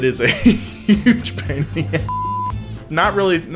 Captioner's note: beep